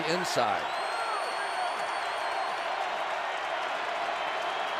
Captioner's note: cheering